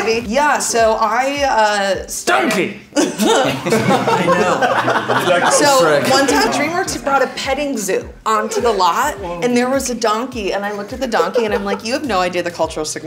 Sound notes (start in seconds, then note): 2.9 group laughing